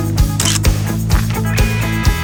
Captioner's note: photo Click